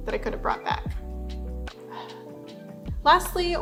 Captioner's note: heavy sigh